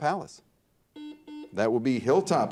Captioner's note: buzzer dings